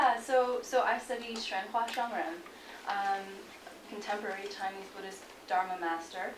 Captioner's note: non-english speech